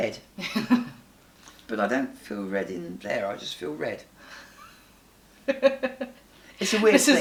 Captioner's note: they laugh